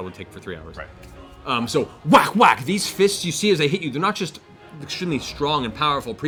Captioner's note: whack, whack